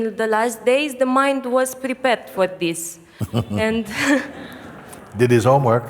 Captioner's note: laughter